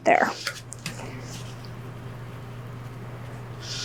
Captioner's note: scrapping